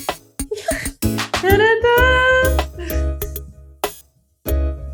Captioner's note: laughing